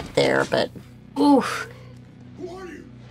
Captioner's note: groans